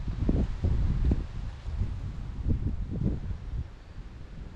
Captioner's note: wind blowing